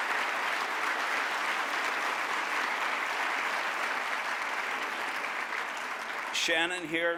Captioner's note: applause